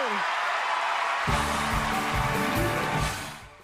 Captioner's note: cheering